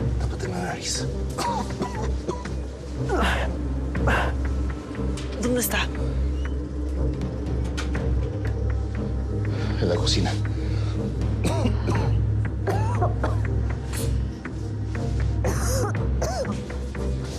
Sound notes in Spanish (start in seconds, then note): 3.0 quejidos